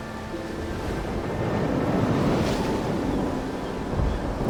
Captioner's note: sound of birds